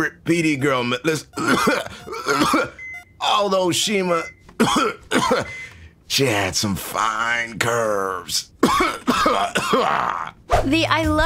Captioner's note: cough cough; cough